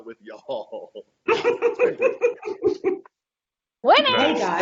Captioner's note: laughing